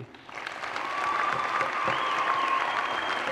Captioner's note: applause and cheers